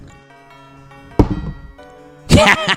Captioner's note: die rolls; laughs